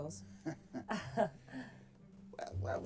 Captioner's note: both chuckle